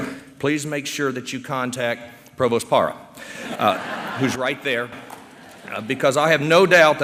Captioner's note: laughter